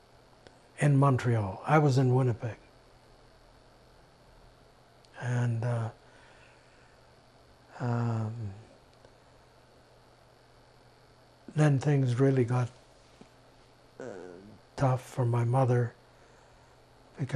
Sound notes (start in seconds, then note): 5.9 pauses 6 seconds